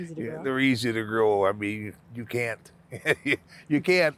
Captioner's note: laughing